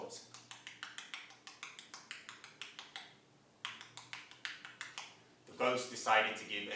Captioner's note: sound of typing on laptop